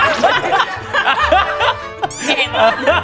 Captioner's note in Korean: 빵 터짐